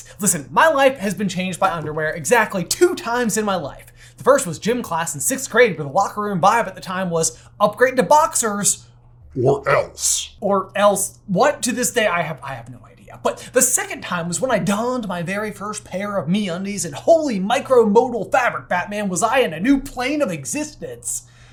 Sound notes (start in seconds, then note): 9.4 threatening